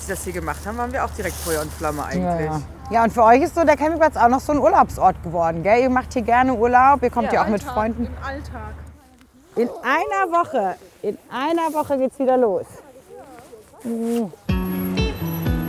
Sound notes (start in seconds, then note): 13.8 kissing sound; 14.4 lighthearted music